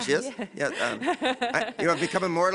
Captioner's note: laughs